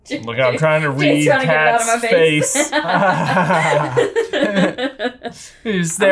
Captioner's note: laughs